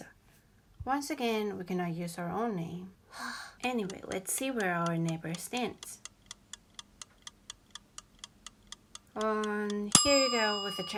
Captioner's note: sigh